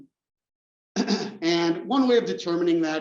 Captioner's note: cough